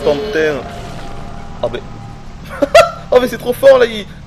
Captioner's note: giggles